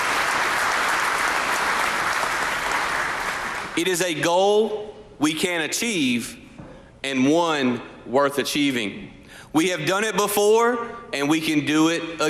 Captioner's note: applause